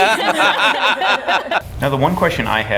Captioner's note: laughing